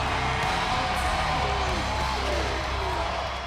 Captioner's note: crowd cheers